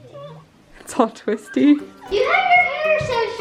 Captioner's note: laughs